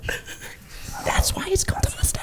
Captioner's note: chuckling